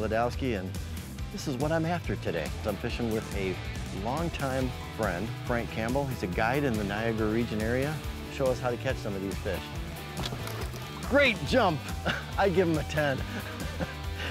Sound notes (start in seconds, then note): 10.1 fish plops; 10.9 upbeat instrumental music; 12.8 laughs